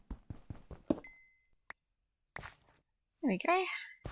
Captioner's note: digging noises and crickets